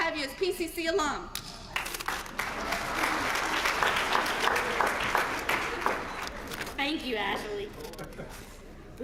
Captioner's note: applause